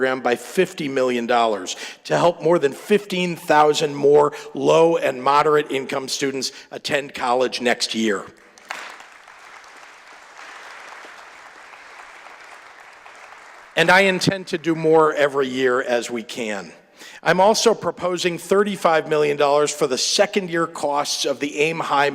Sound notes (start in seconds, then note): 11.5 applause